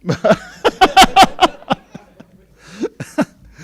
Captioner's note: laughing